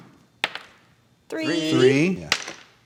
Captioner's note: die clacking